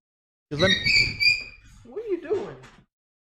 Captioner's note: dog squeaking